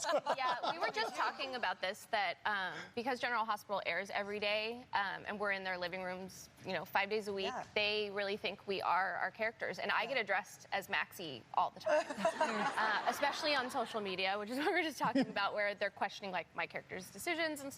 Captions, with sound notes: >> Yeah, we were just talking about this, that because "General Hospital" airs every day and we're in their living rooms, you know, five days a week, they really think we are our characters, and I get addressed as Maxie all the time. (laughter) Especially on social media, which is what we were just talking about, where they're questioning, like, my character's decisions and stuff.